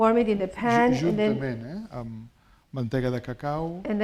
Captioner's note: speaking spanish